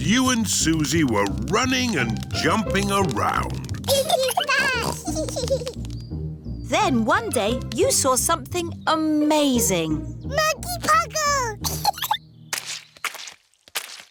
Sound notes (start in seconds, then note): 4.8 both giggling; 11.6 giggles